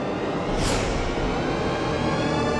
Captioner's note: wind wooshing sound